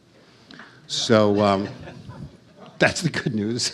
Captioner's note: audience chuckles